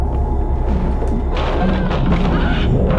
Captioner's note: banging